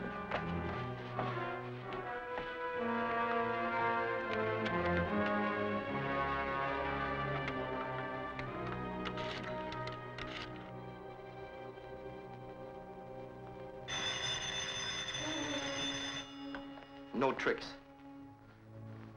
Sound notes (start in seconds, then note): 1.0 suspenseful music; 9.5 rotary dial clicking; 13.8 phone rings